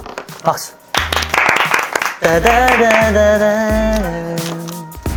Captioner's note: applause